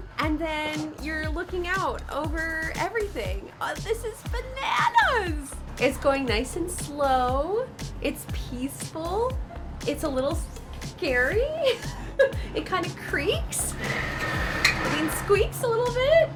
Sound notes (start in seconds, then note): 11.6 laughs nervously